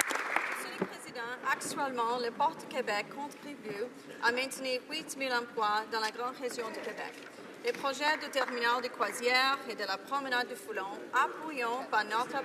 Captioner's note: some Applause